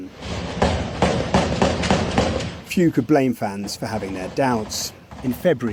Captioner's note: fireworks exploding